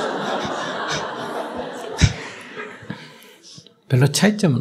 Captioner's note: audience Laughter